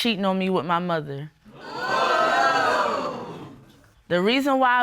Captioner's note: audience exclaims